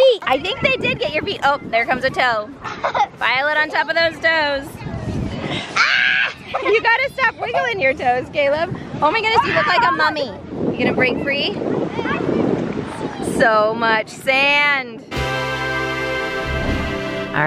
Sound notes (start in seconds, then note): 5.8 screams playfully; 15.1 victorious tones